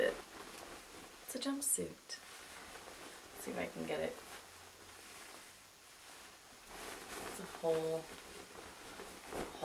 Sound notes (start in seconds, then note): 0.0 rustles; 4.6 jumpsuit rustles